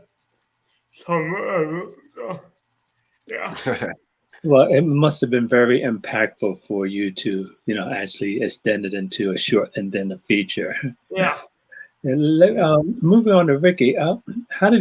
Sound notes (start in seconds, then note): 3.3 laughing